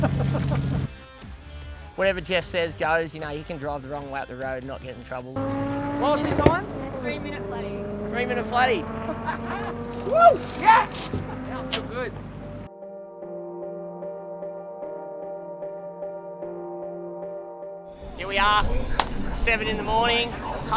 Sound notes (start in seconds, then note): 5.3 engine revving; 9.0 laughter